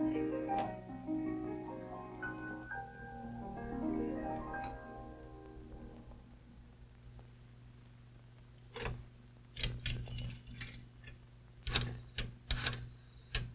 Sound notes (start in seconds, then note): 9.2 phone clanking; 10.3 telephone dialing